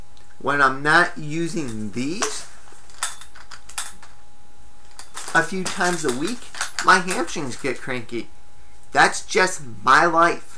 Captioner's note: metal clanging